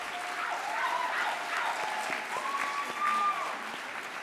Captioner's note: audience cheers